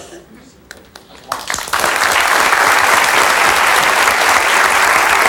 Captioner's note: audience applauds